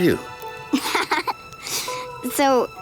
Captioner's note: laughing